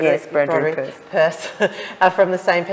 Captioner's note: laughs